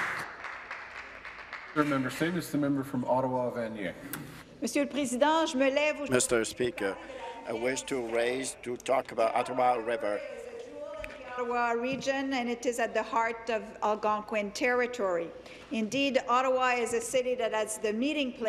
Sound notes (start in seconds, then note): 2.4 applause; 8.3 speaking in French